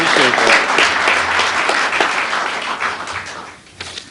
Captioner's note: applause